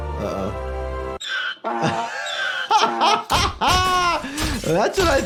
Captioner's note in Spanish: burro rebuznando; riendo